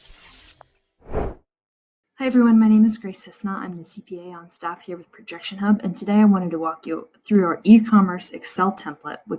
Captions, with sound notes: (air whooshing) - Hi, everyone. My name is Grace Cisna. I'm the CPA on staff here with ProjectionHub. And today I'm going to walk you through our E-Commerce Excel template,